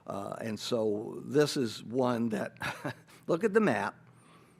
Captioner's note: chuckles